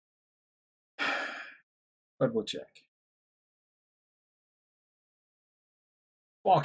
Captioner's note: sighs